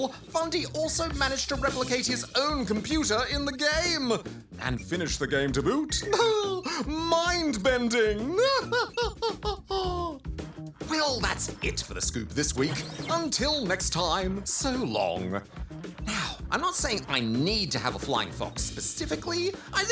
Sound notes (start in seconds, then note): 8.4 laughs